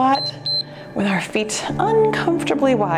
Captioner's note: timer beeps